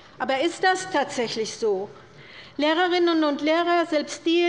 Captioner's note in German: none